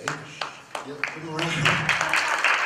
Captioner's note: applause